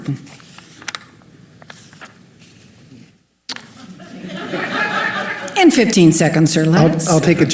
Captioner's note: laughter